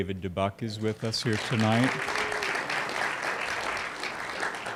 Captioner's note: applause